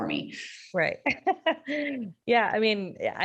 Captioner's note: laughing